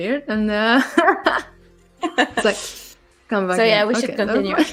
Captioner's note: laughs